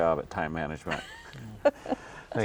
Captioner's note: laughing